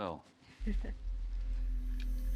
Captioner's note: Sandy chuckles; unsettling music